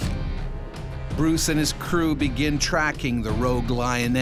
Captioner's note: voiceover